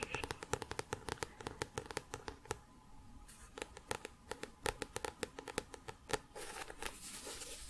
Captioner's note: tapping on book